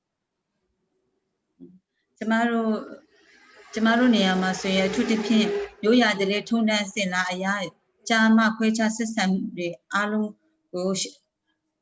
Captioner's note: speaking in another language/ Interpretation